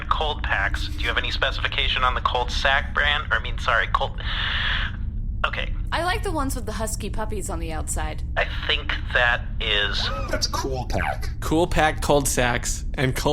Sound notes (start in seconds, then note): 4.3 draws in a breath